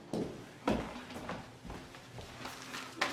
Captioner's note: paper rustling